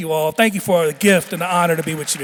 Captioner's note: audience clapping